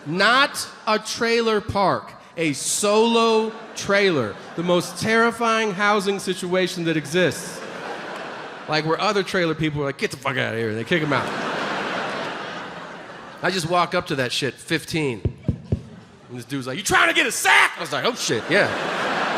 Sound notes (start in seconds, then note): 15.3 Tom knocking